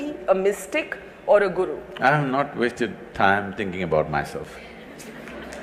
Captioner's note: laughter/Applause; 笑聲/掌聲